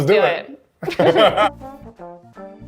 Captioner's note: both chuckling; lighthearted music